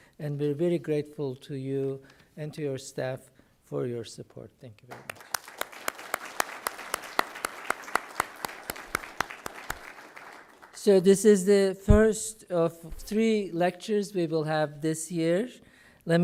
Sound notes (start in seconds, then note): 4.9 applause